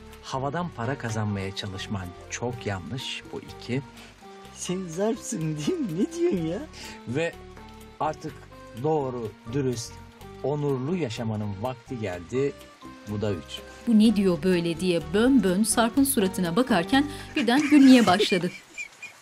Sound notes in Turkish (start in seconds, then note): 17.2 Gülme sesi